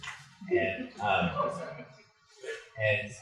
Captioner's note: laughter